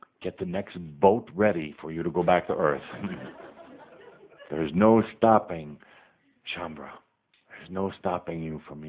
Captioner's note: more laughter